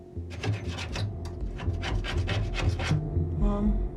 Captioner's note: scraping